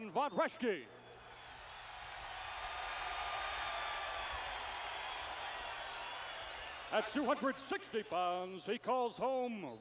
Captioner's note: applause